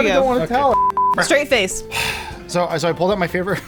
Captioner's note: beep beep; sighs